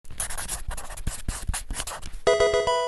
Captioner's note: marker scratching; electronic sound effect